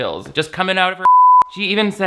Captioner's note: beep